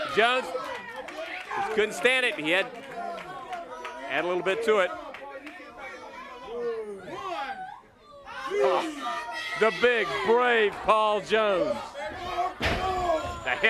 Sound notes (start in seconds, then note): 2.8 crowd cheering; 9.6 crowd chatter